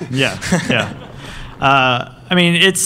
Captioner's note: laughter